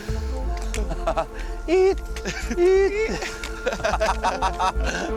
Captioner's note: makes squeaking noises; they laugh